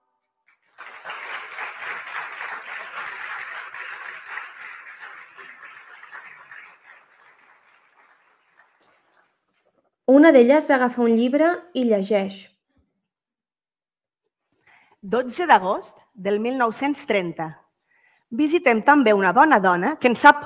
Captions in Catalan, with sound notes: (aplaudiments) 12 d'agost del 1930 visitem també una bona dona que en sap